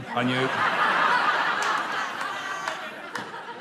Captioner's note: laughter